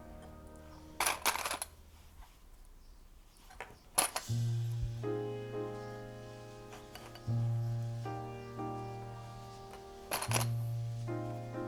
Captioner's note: clips rattling